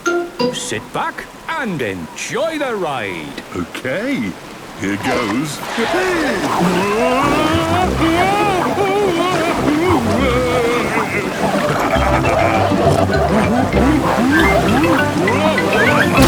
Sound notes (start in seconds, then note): 8.0 Daddy Pig shouting; 11.6 laughing, snorting